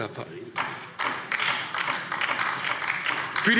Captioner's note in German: Beifall DIE LINKE